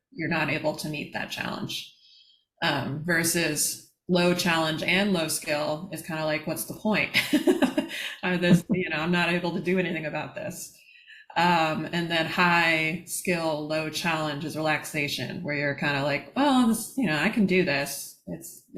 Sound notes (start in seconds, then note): 8.4 laughter